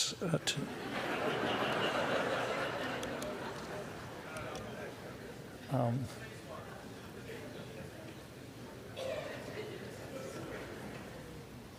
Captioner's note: laughter